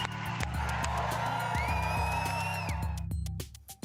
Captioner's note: crowd cheering